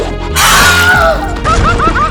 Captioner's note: Wilhelm Scream